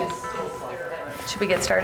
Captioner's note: people chattering